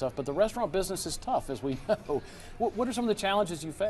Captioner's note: chuckles